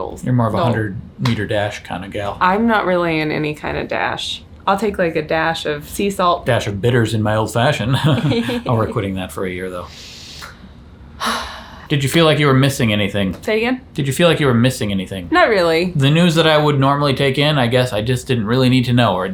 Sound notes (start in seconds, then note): 11.2 sighs